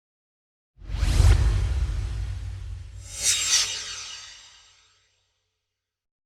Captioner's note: swoosh